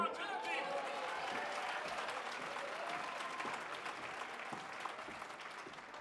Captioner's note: audience clapping and cheering